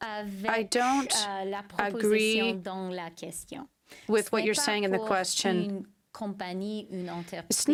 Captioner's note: speaking french